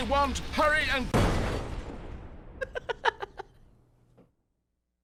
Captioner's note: explosion; laughs at the destruction